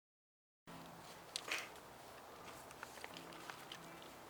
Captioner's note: wind truckling